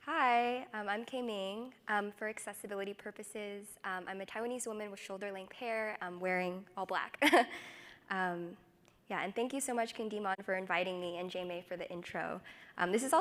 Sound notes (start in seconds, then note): 8.2 chuckles